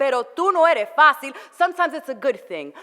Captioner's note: foreign language